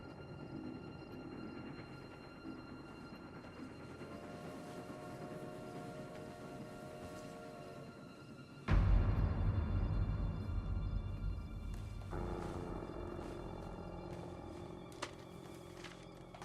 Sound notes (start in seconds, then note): 3.9 train whistle blaring; 8.8 ominous music